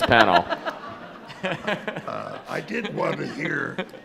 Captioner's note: attendees laughing